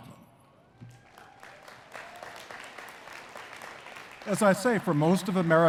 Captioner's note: attendees cheering and clapping